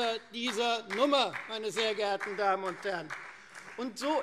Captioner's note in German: Beifall Freie Demokraten